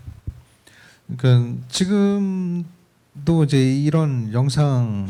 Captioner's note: speaking korean